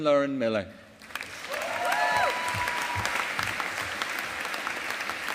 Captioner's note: audience applauding